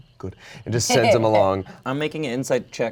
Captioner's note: laughs